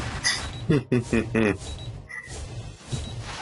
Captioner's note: laughs